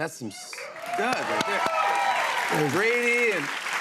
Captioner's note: cheers and applause